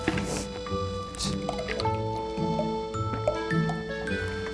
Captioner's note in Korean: 콸콸콸 콸콸콸